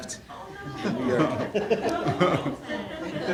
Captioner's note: laughing